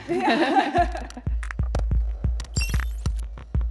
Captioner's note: laugh; tense music